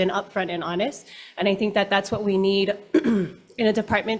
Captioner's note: coughs